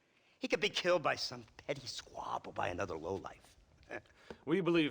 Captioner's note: laugh